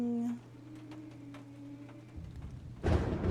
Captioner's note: spooky Moaning Sounds; thunder